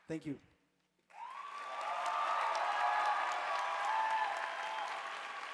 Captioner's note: audience applauding